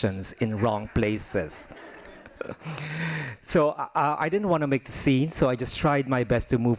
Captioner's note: laughing